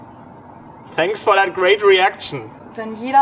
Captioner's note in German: Sarkasmus